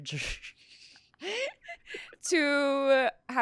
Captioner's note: laughs